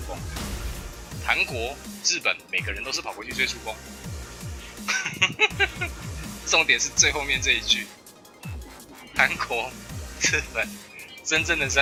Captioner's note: laughs